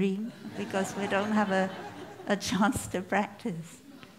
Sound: laughter

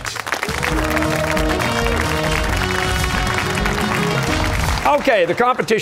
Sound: cheers and applause

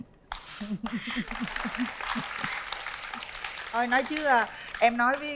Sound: applause

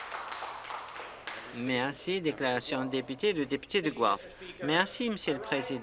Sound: applause

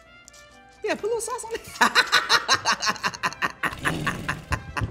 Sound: laughs

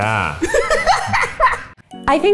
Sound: laughing

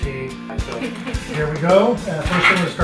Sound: laughing

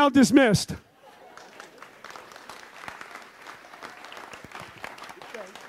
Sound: audience applauds

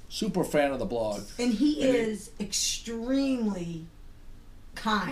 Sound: voiceover

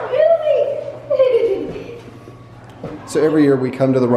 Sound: giggles

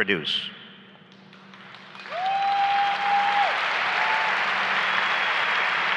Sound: applause and cheering

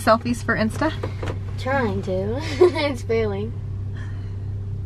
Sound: laughing

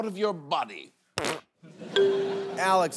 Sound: flatulence

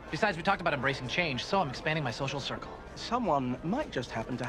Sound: none

